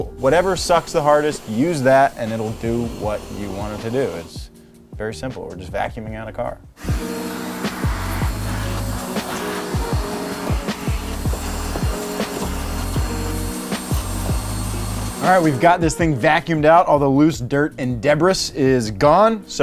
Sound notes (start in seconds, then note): 7.2 vacuum whirring